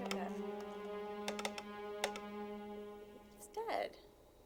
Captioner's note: phone clicking